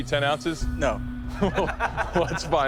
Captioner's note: laughter